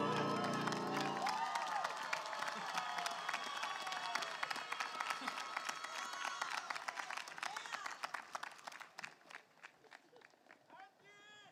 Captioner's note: cheers and applause